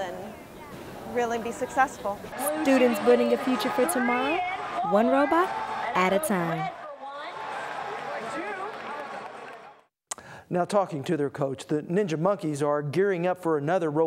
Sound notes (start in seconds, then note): 7.6 crowd noise